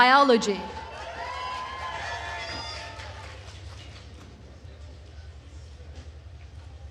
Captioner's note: attendees cheering and applauding